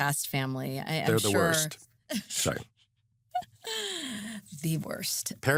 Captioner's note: laughs